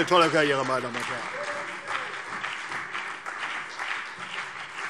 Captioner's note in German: Beifall CDU und BÜNDNIS 90/DIE GRÜNEN